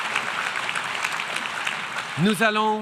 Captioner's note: applause; speaking French